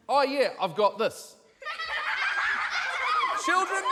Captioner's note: children laugh on recording